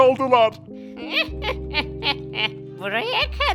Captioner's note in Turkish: Gülme sesi